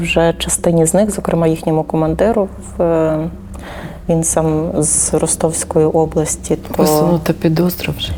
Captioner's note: Ukrainian